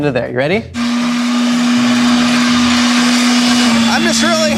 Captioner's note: electric machine motor